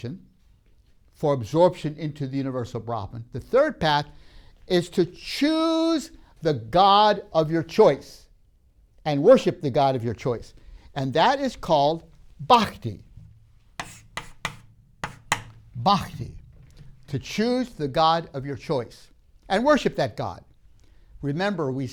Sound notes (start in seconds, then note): 13.7 writing noise